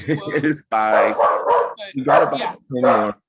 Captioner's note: dog barking loudly